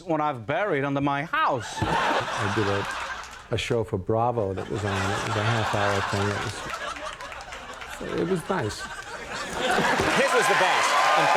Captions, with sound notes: what I've buried under my house. I did a show for Bravo. That was, it was nice. (audience cheering) It is nice. (audience cheering)